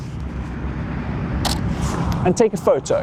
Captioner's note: snapping